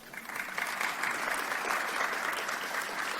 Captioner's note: audience Applause